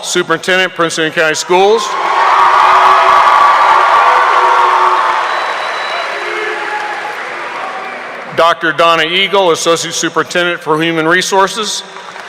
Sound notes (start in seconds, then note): 1.6 audience cheering; 1.8 audience applauding